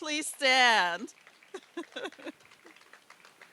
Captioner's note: applause; laughs